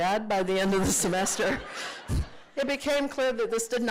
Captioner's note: laughter